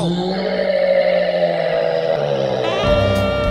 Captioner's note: roar